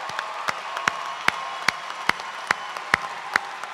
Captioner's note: cheers and applause